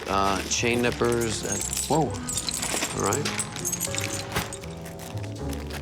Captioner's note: chains clinking